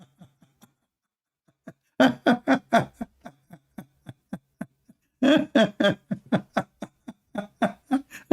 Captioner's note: L aughter